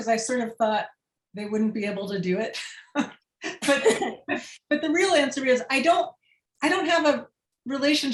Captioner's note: laughter